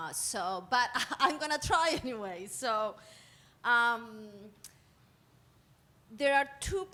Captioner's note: laughing